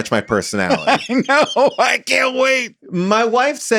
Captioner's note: laughs